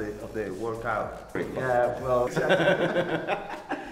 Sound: laughter

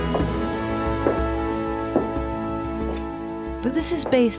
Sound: heels clack

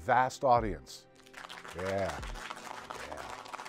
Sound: clapping

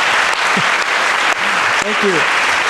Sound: audience claps

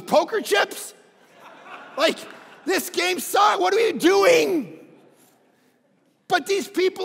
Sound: crowd laughing

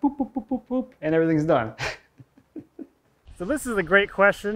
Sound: laughs

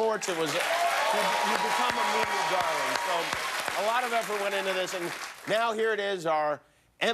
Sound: cheers and applause

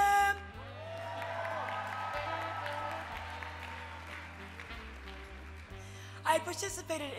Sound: applause

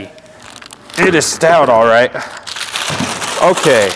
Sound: paper rustling

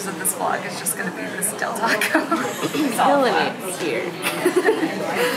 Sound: laughing; laughs

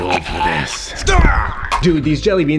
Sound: groans; fighters grunting

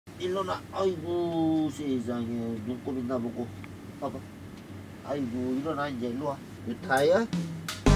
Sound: speaks Korean

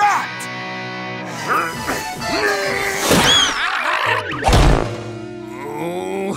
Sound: groaning

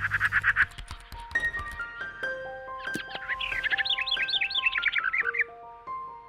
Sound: bright music; birds chirp

